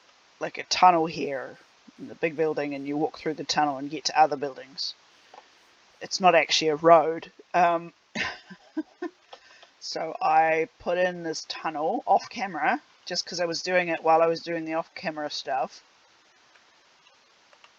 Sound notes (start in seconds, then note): 8.2 laughs